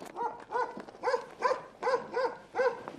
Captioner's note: barks